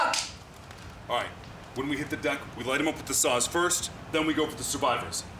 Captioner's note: in English